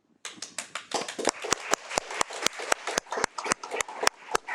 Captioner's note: attendees applaud